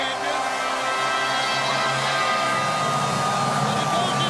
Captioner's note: crowd cheering